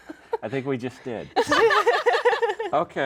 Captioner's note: laugh